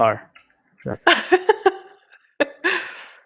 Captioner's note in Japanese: 笑い